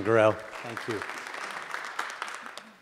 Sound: audience applauding

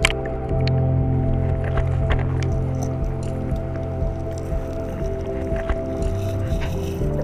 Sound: sounds of crawfish moving underwater

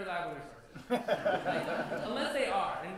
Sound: laughter

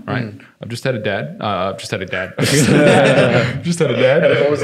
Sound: laughing

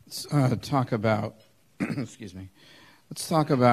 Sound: clears throat

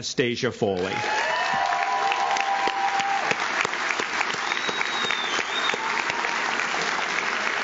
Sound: audience cheers; audience claps

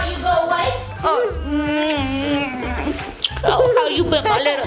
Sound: kisses and laughs

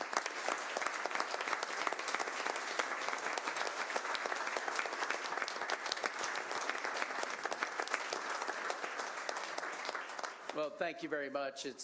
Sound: applause

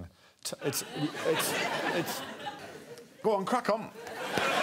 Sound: laughter

